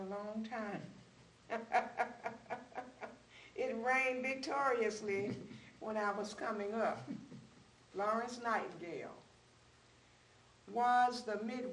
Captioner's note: laughs